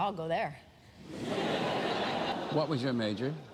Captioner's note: laughter